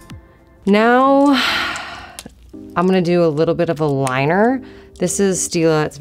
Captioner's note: sighs